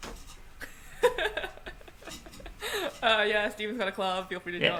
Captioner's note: laughs